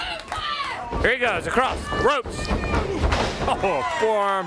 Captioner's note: crowd chatter